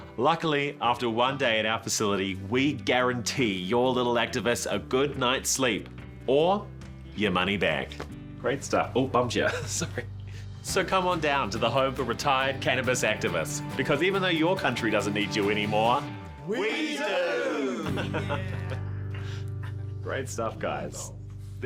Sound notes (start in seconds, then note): 17.8 laughter